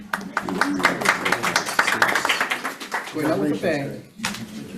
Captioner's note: committee applauds